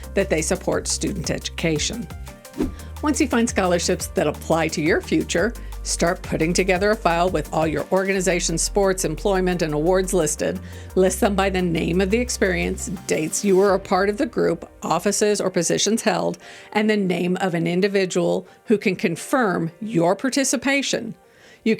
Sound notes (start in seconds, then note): 2.3 gentle music; 2.4 transition whooshing